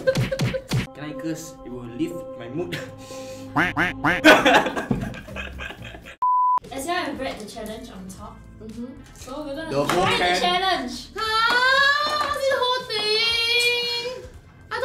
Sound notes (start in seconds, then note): 3.5 quack quack quack; 3.6 cough